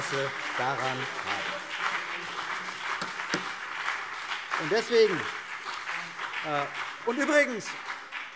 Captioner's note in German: Beifall CDU und BÜNDNIS 90/DIE GRÜNEN